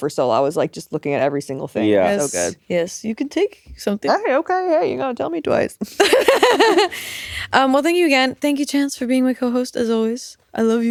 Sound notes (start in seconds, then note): 5.9 all chuckling